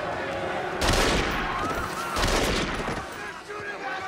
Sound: gunshots

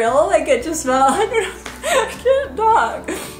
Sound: laughs

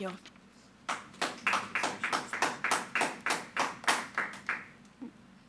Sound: audience applauding

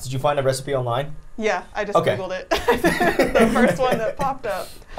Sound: laughs

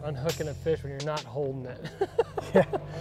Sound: laughs

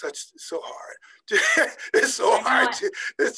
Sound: laughing

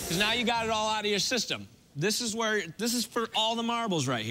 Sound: none

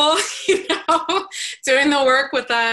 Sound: laughs

